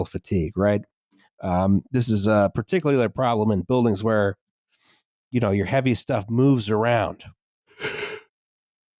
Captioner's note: yawns